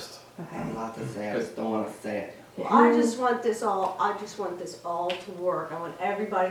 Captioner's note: mockingly